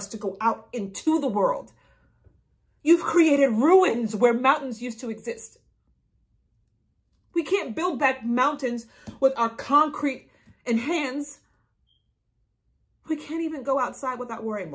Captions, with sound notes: to go out into the world? You've created ruins where mountains used to exist. We can't build back mountains with our concrete and hands. (smoke detector beeping) We can't even go outside without worrying